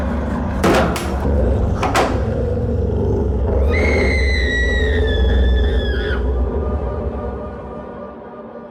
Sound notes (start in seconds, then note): 3.0 creature growls; 4.6 woman screams